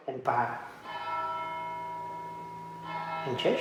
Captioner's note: bells ringing